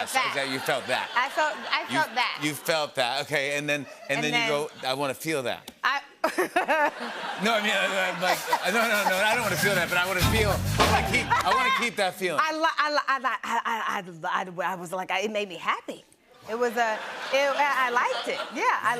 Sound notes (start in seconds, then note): 6.0 laughs